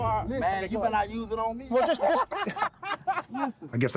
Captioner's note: laughing